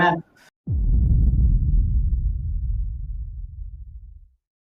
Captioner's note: boom